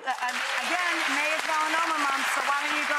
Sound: applause

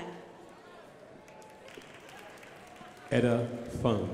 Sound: crowd applauding

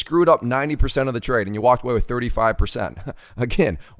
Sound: laughs

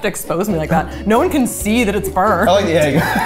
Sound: laughing

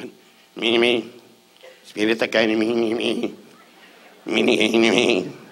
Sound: Don muttering

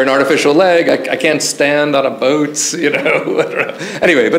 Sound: chuckles

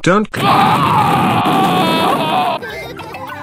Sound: Daddy Pig Screaming

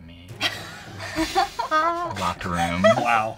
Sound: laughter

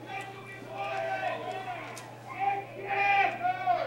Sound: chanting

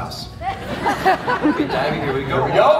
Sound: audience laughs

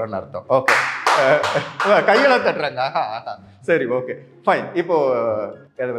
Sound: claps

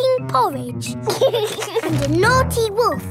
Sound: george giggles

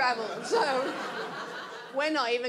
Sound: audience laughs

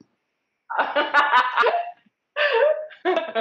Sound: laughs

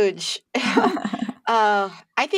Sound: laughter

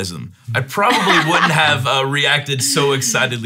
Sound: laughing

